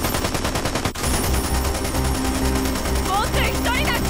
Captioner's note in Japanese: 銃声